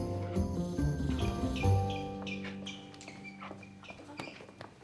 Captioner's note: shoes squeaking